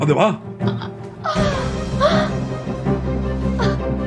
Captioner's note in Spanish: llora